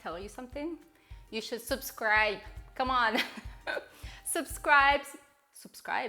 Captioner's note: chuckling